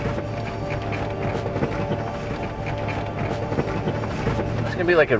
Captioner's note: vehicle rattling